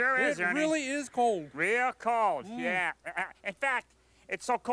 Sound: chuckles

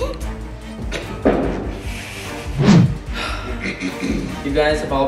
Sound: Cyan chuckles

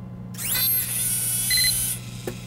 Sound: vrrr Beep Vrrr

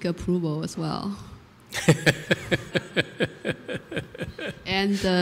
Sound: laughter

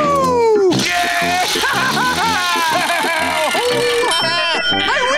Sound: cheering

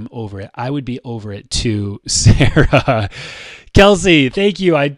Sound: chuckles

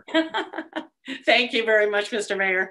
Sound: laughing

